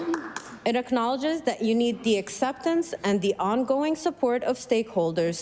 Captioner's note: applause